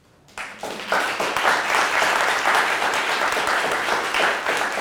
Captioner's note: audience applauding